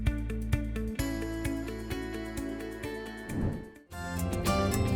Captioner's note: whoosh